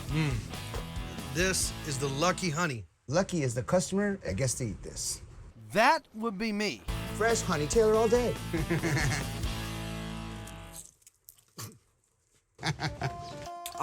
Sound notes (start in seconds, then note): 8.5 both chuckle; 10.4 crunching; 12.6 chuckle